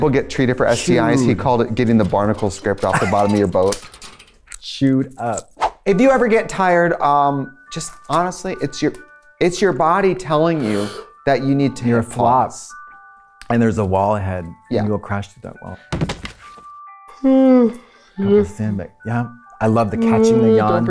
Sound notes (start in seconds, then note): 15.9 thud; 17.7 yawns